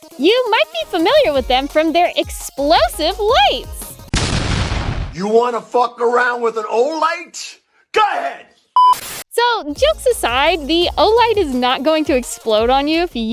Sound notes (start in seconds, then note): 4.1 explosion